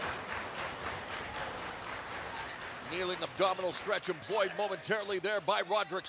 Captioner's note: cheers and applause